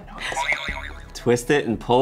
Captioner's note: springing sound